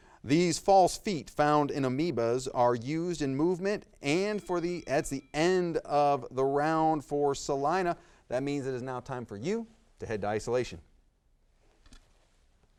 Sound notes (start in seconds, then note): 3.1 timer dings